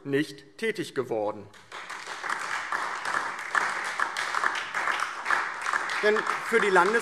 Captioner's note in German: Beifall DIE LINKE, SPD und Freie Demokraten